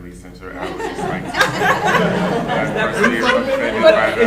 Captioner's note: laughing drowns out speakers